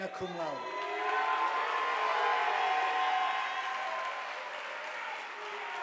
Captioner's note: audience applauding